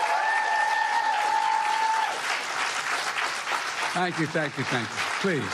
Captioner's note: applause